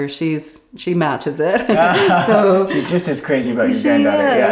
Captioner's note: laugh